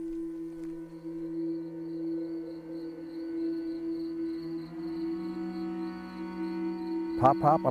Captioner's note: insects chirping; solemn music